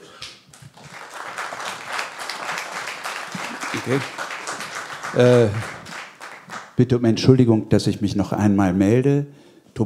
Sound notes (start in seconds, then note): 0.5 applause